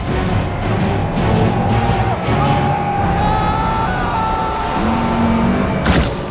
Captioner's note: screaming; loud squish